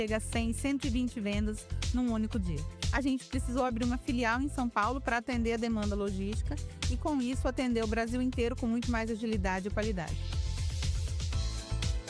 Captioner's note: speaking another language